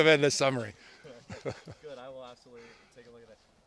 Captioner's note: laughter